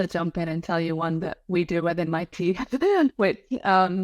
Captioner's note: laughs